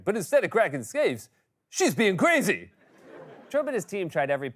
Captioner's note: laughter